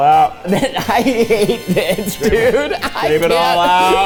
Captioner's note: laughing